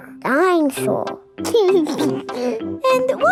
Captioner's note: giggles